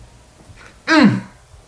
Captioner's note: grunts